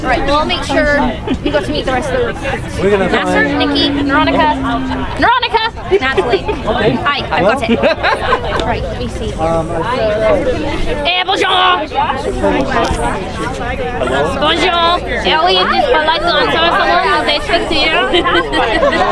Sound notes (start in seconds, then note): 7.5 laughter; 11.2 thick French accent